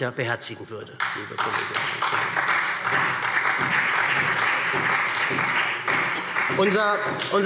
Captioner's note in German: Beifall SPD